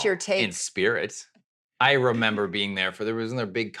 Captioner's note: laughing